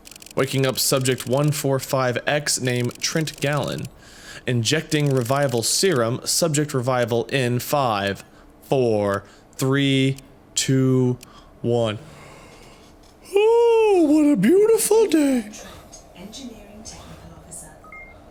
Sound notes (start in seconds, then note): 12.2 Yawns like a Teletubby; 17.9 A.I. Beeping